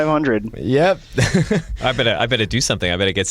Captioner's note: laughter